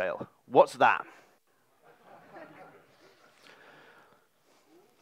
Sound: audience laughs

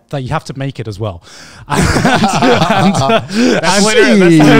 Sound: all laugh

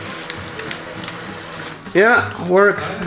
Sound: printer sounds

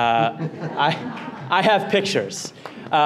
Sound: audience laughter

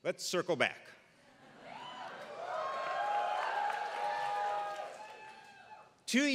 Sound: applause

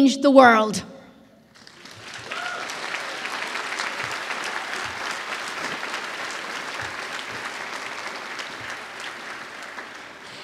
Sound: applause

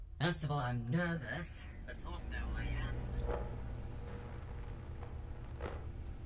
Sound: fades out into static

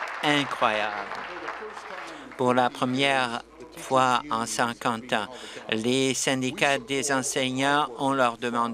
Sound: applause

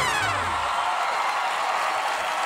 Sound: farting noise

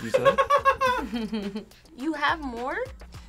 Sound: React laughs; laughs

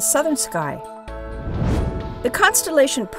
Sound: whoosh

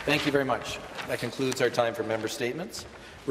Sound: some Applause

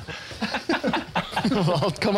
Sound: laughter

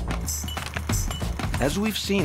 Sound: sound of rolling tape

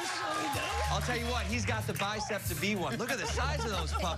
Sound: cheers and applause

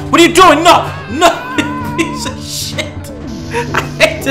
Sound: laughing

